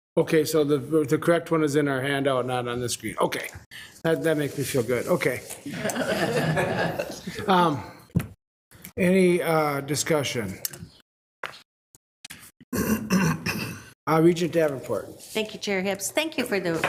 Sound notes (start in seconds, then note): 5.6 group laughing